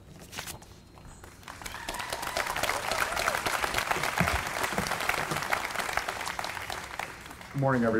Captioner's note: applause